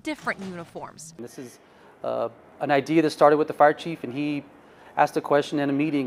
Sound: sirens

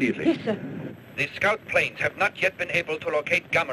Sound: radio Announcer

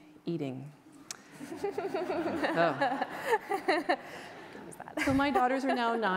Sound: audience laughter

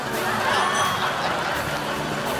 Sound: bell rings

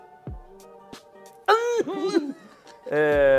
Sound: laughs

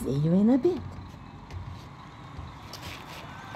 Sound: steps on floor; sounds of the street, a motorcycle, chatter, trumpets, the beach, the ocean

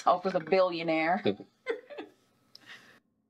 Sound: Kim laughs

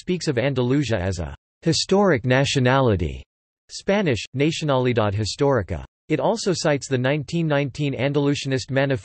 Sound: spanish: nacionalidad histórica

